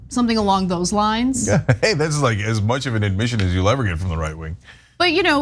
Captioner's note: laugh